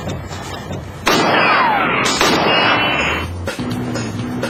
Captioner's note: gunshots